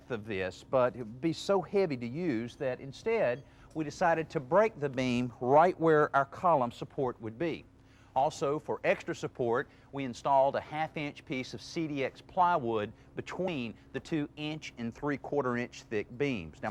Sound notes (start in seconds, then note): none